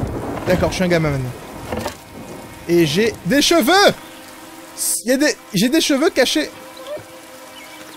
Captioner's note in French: Aboiements